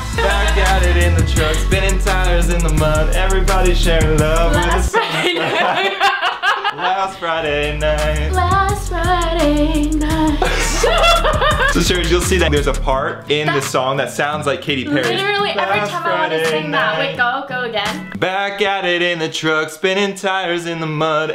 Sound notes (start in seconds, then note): 6.1 laughing; 10.2 laughing